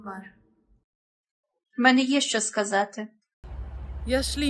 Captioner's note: Turkish; Ukranian; Hebrew